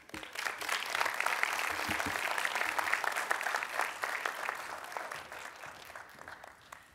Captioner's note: applause